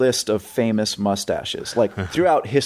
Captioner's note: laughing